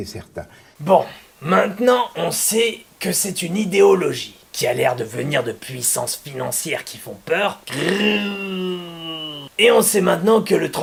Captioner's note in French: grrrrr!